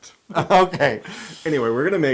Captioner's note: laugh